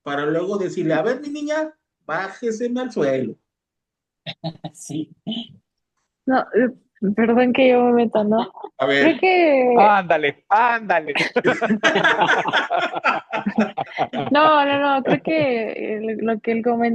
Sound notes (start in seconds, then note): 11.1 risas